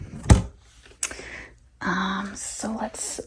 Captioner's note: lid thudding